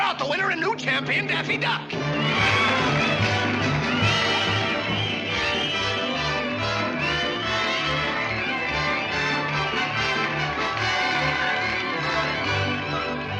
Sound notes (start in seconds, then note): 2.3 bright music; 2.3 crowd cheering